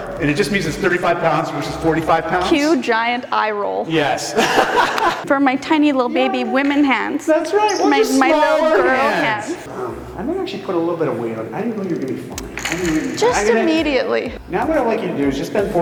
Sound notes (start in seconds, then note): 4.3 laughs